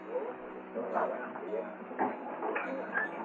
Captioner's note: people chattering